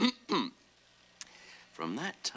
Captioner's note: clears throat